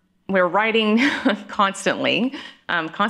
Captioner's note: chuckling